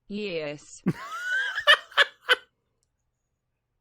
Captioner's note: laughs